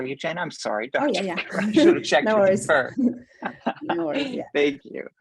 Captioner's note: laugh